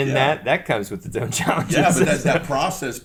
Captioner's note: laughs